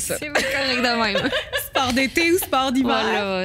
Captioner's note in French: rires